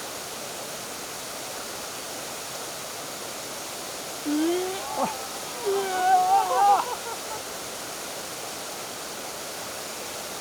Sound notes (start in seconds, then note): 4.2 whoa — hahahaha